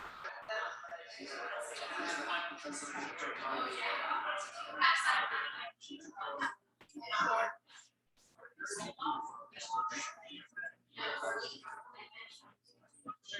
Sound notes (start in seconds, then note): 7.7 people chattering indistinctly continues